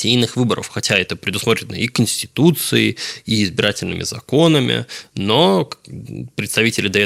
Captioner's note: Ukrainian